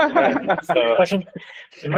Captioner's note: laughter